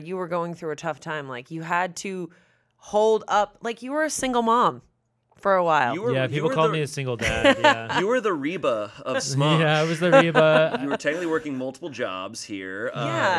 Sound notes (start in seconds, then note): 7.2 chuckling